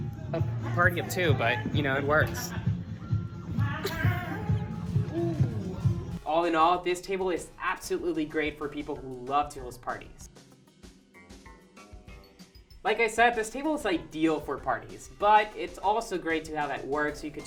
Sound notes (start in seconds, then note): 2.8 dance music; 3.5 laughs